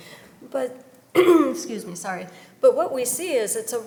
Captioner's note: coughs